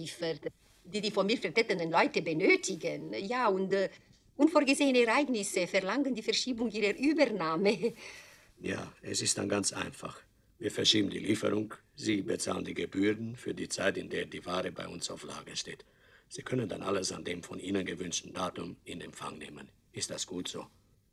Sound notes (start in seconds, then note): 2.4 in German; 12.1 in German; 15.2 in German; 18.2 in German; 20.5 in German